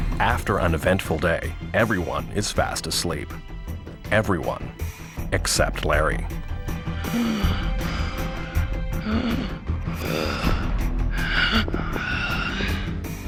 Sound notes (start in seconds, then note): 9.1 wheezing, gasping